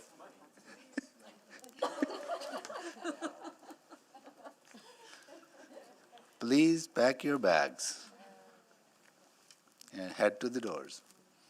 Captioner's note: chuckles; laughter